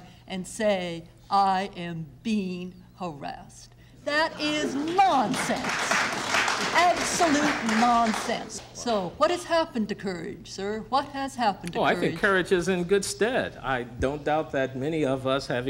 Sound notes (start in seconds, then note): 4.7 applause